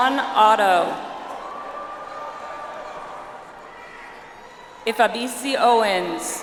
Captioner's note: audience applauds